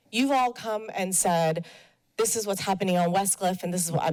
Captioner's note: none